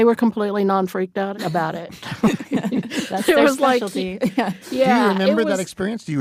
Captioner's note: laughs